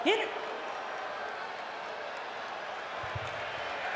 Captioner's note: crowd cheers